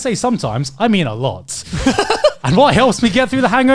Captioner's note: hosts laughing